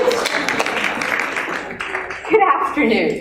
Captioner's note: laughter and applause